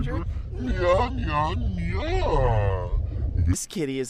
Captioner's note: distorted